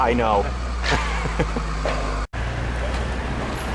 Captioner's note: laughter